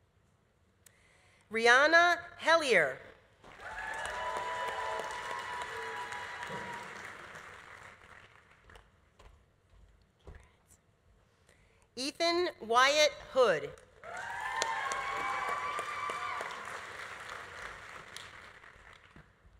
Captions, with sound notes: Rianna Helier. (audience applauding) (audience cheering) Congrats. Ethan Wyatt Hood. (audience applauding) (audience cheering)